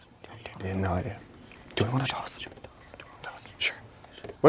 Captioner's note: whispering; whispering